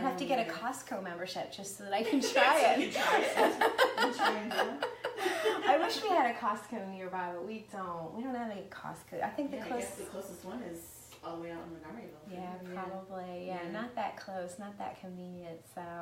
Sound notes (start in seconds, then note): 2.2 laughing